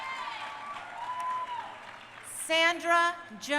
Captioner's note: crowd cheering